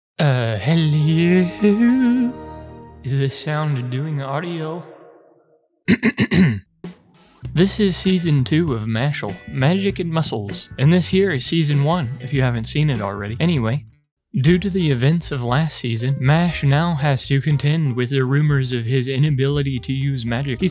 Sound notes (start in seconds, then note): 5.9 clears throat